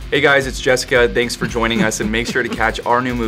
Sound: Jessica laughs

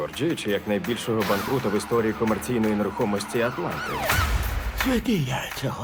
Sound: police siren wailing

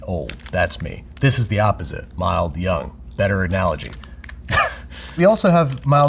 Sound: chuckles

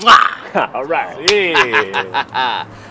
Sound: laughter

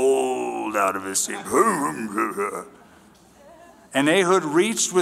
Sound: jabba the hutt sounds

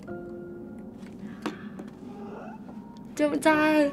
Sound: sad music; subtle gasp; takes a raspy breath

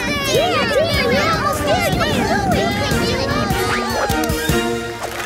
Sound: cheering

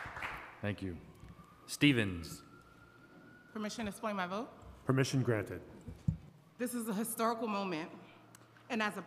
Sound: applause

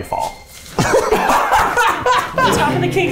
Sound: laughing

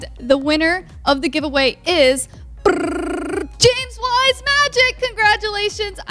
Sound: makes drum roll sound

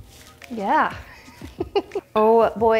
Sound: chuckles

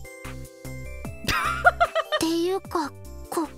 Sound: chuckles

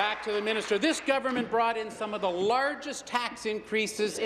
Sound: applause

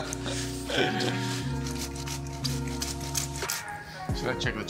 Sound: upbeat music; Yotam laughing; grater scraping

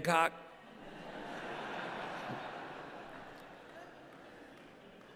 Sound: laughter

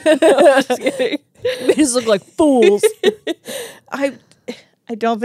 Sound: laugh

